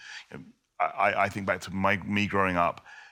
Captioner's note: none